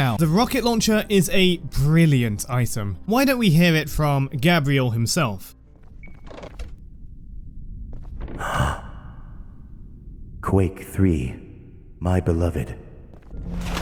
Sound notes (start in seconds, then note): 8.4 gasp